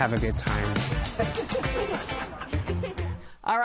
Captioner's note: laughter